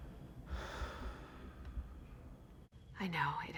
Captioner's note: sighs